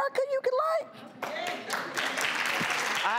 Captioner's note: audience claps